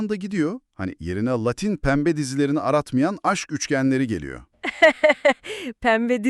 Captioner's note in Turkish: kahkaha